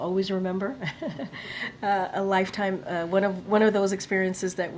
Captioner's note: laughs